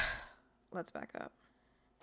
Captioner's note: petulant sigh